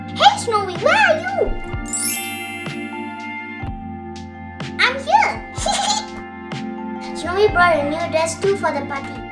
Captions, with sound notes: Hey Snowy, where are you? I'm here. [laughs] Snowy brought her new dress too for the party.